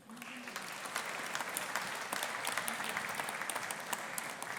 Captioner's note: audience applauding